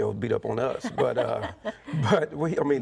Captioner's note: chuckling